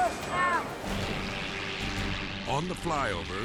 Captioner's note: dramatic music; helicopter buzzing